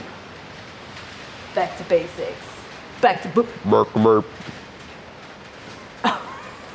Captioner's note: robotic sound; laughing